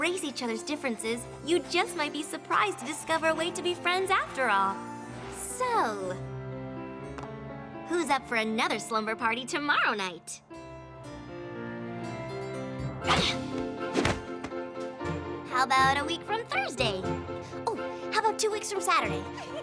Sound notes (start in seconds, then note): 13.1 thud! thud!